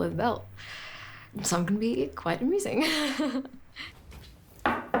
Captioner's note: giggles